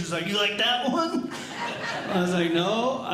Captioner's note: audience Laughing